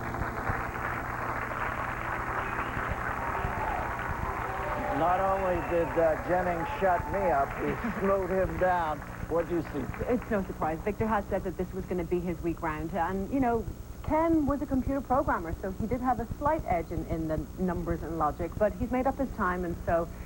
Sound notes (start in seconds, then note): 0.0 applause